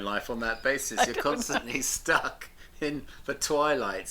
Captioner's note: laughs